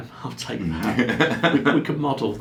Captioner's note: laughing